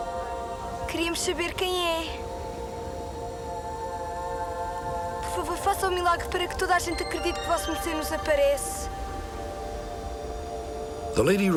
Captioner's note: speaking portuguese